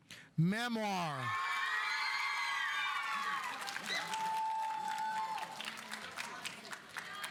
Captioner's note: audience cheering; audience applauding